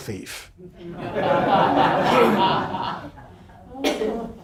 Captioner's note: students laughing